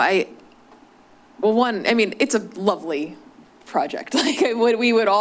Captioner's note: laughs